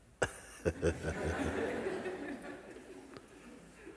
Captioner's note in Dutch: gelach